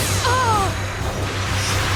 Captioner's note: grunts